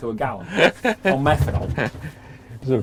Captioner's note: laughing